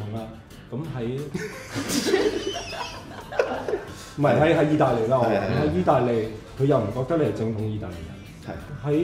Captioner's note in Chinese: 笑～